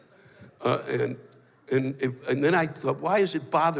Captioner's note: stammers